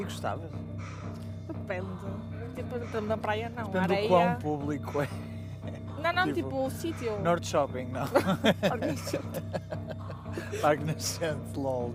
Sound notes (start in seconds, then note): 4.7 laughs; 8.0 laughter